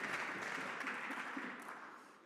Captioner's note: some Applause